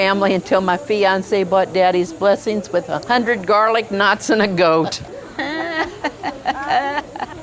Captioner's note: the others laugh